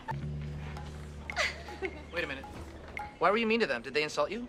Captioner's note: annie laughs